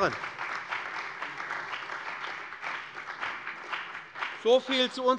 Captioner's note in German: Beifall bei dem BÜNDNIS 90/DIE GRÜNEN und der CDU